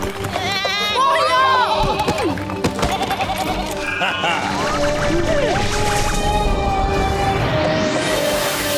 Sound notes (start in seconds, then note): 0.1 bleating; 2.8 Tobor chuckles